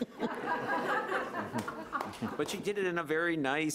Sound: audience laughing

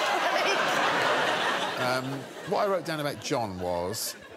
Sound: laughter

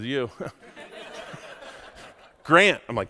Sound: audience laughs

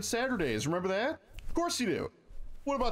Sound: finger snap

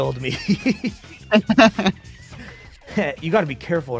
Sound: laughs

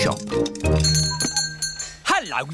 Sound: bell ringing

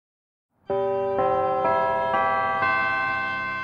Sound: bells chime

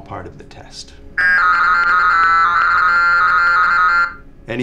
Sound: alarm

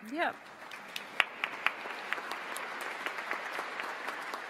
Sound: audience applauds

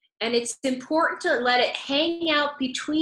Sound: none

